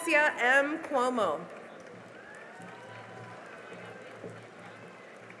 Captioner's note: cheering and applause